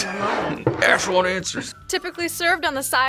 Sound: laughs

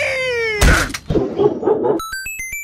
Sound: 64 Bowser Laughing

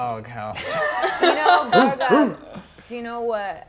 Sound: sighs; players laughing; barking

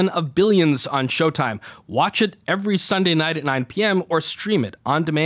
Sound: none

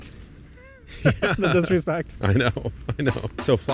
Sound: both laugh; upbeat music

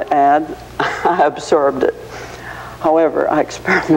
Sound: chuckling

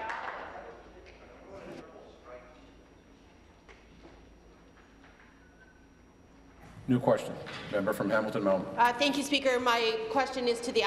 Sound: applause

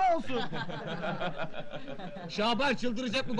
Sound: laughing

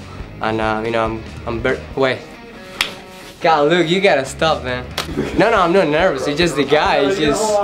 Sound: laughter

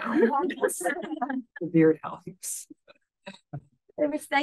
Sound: audience laughing

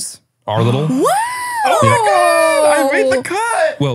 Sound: gasps

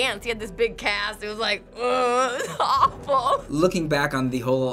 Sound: groaning

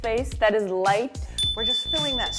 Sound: chime dings

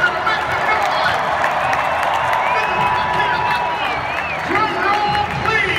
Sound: crowd roars and cheers

